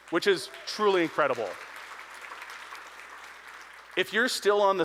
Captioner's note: audience applauding